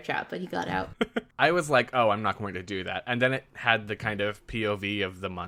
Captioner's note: laughs